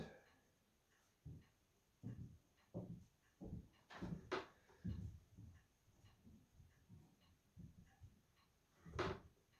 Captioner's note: more footsteps above me